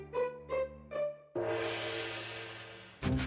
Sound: gonging

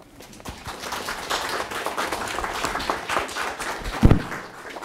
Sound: audience applauding

